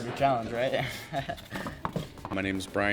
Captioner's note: chuckles